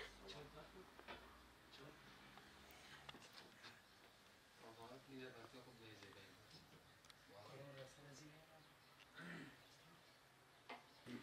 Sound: nature Sound

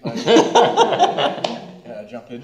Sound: laughter

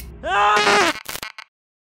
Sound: scream; distorted scream

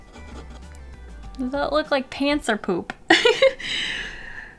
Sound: giggle

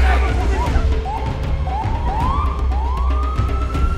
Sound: siren wailing

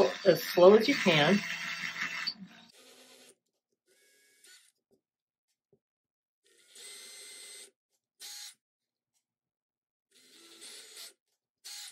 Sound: drill sound

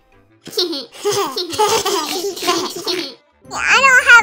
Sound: giggle giggle giggle

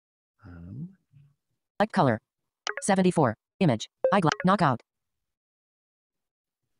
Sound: automated Voice

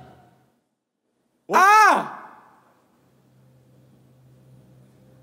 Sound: judges screaming

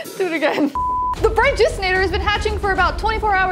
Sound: sine tone beeps

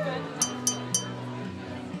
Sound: glass clanging

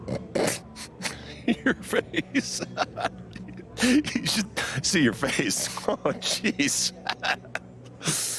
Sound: laughs

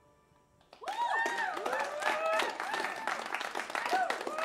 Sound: cheers and applause

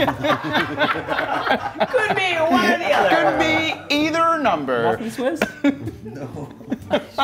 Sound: laugh

